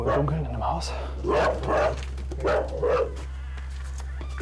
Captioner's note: barking